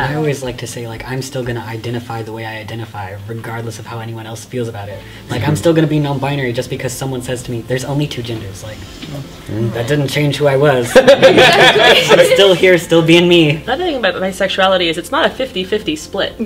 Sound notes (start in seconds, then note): 10.8 laughter